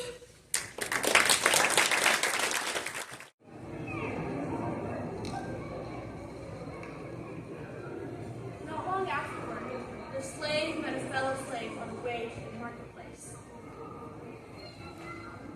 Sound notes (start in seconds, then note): 0.5 applause; 3.6 marketplace Chatter